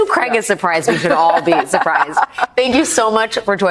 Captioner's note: laughs